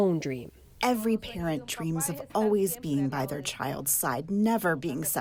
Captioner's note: through translator